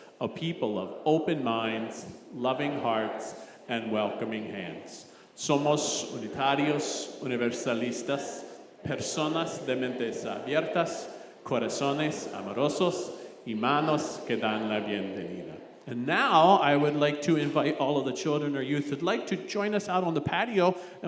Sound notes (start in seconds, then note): 5.5 congregation praying in Spanish